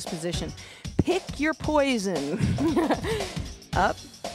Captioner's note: laughs